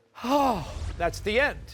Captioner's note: sighs